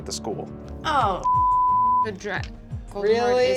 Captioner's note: beep